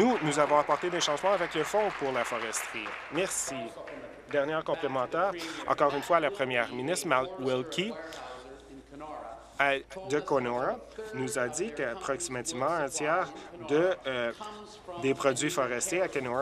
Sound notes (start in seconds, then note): 4.2 applause